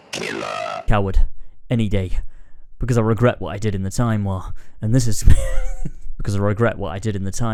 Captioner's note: laughs